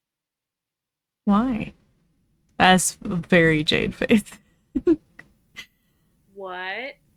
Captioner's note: quiet laughing